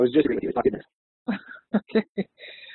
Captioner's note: audio distorts; laughs